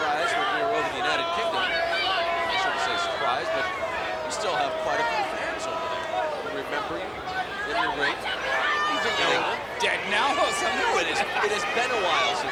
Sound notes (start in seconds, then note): 3.3 crowd clamoring